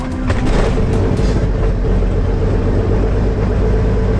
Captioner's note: engine starts